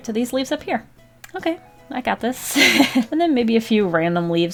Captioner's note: laughs